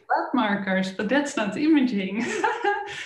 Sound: laughs

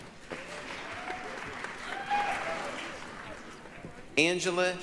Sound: applause, cheering

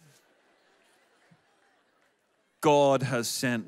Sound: audience laughs

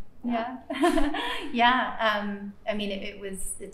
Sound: laughs

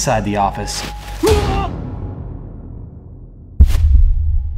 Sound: shouts

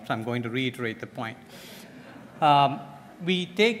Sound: laughter

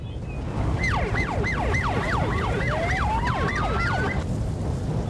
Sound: fire and wind roar; siren blares

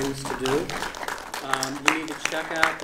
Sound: audience applauding

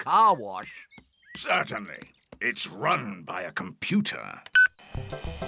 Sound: beeps

